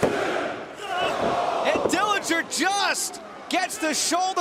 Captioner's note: crowd cheering